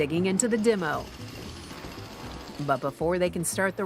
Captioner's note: chainsaw revving